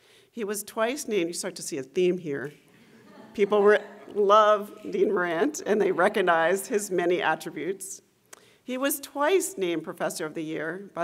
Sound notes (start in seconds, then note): 2.9 laughter